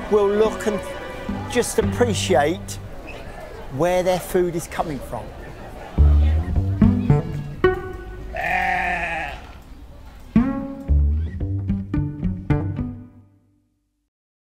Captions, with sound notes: will look and just appreciate where their food is coming from. (pizzicato string music) (sheep bleating)